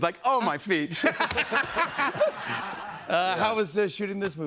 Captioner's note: laughter